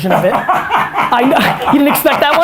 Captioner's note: laughter